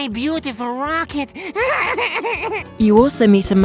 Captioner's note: cries